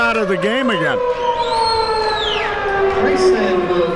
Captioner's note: siren blaring